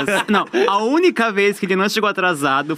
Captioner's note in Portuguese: risos